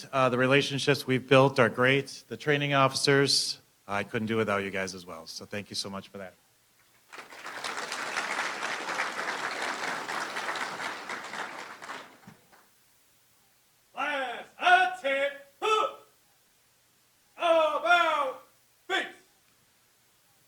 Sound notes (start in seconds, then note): 7.0 applause